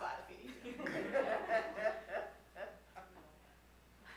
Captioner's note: audience laughing